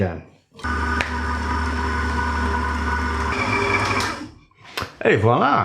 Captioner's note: machine whirring. again